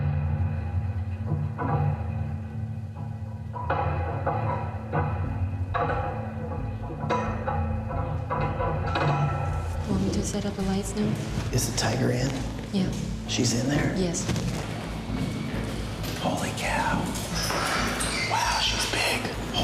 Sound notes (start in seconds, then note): 9.3 quietly; 15.5 whispers